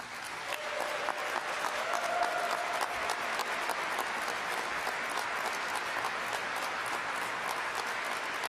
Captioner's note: audience claps and cheers